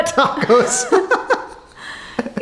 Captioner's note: laughing